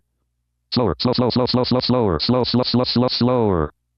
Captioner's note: automated Voice